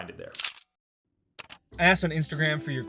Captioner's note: camera clicking